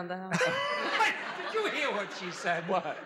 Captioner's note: laughs